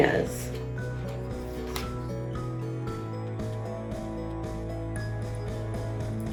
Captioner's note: uplifting instrumental music; pages shuffles